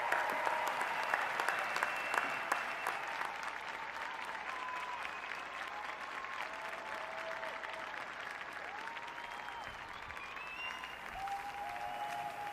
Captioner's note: cheers and applause